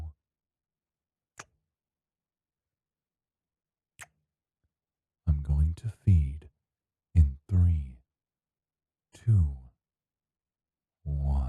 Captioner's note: kisses